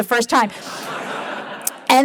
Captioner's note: laughter